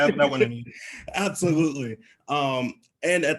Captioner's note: laughs